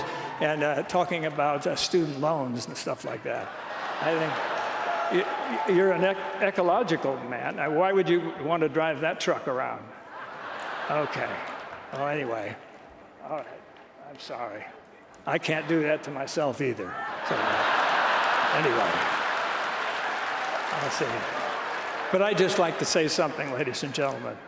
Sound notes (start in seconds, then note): 3.7 applause; 10.1 laughter; 17.1 laughter and applause